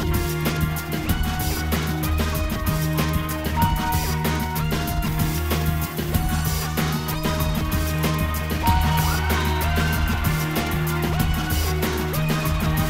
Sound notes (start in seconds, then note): 8.6 team screaming